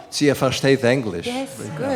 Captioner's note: non-english speech